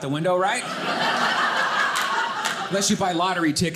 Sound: audience laughing

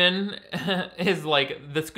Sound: chuckles

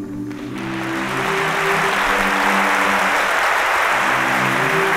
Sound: applause

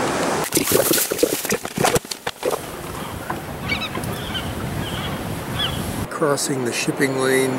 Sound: waves crashing; seagulls calling

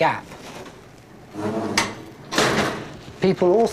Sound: lift doors clank closed

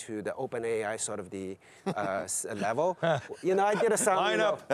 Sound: laughs

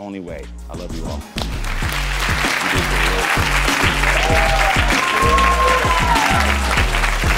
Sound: upbeat music; audience applauds

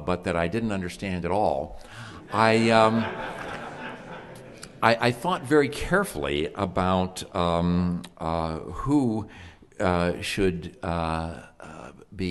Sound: background chuckles

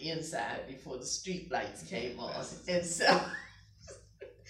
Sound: laughing

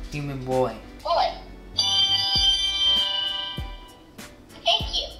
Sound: ding

